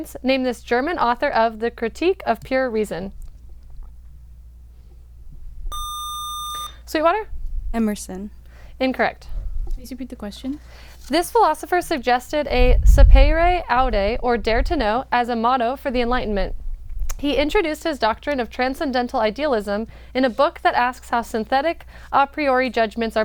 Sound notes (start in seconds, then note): 5.7 buzzer